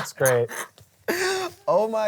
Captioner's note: laughs